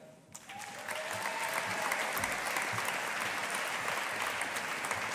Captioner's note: audience applauding